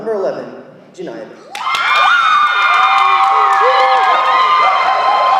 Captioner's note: audience applauding